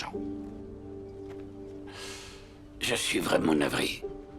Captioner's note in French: Peter soupire